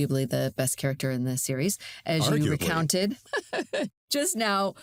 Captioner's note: chuckles